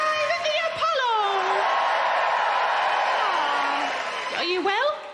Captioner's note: crowd cheering